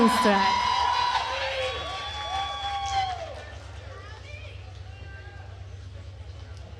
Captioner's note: attendees cheering and applauding